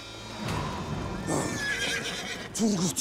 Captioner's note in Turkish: At kişneme sesi